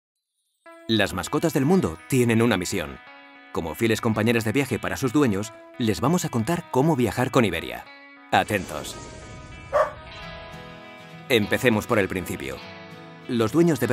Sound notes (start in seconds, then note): 9.7 woof